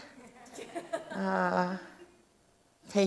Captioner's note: audience chuckles